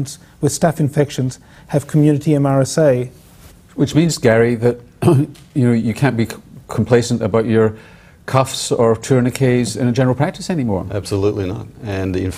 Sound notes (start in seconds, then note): 5.0 clears throat